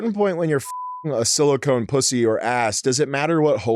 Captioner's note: beep